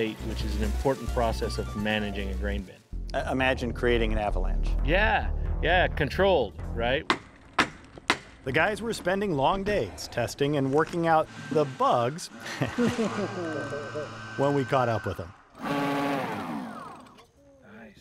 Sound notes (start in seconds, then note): 7.0 hammer banging; 12.3 guys laughing; 15.3 engine whirring